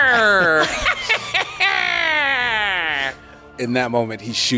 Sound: evil badass cackles

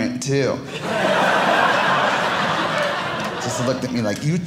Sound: audience laughing

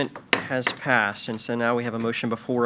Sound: gavel bangs

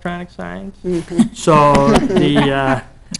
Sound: people laughing

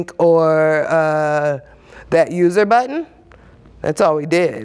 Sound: none

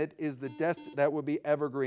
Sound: buzzer ringing

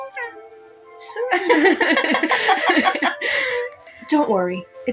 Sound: both Laugh

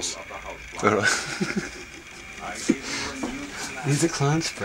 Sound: laughs

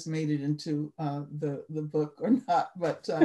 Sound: laughter

